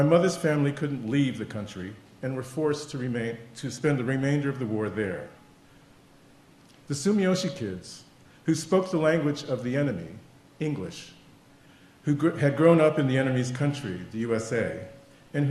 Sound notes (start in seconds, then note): none